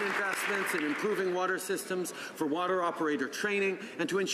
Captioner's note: some Applause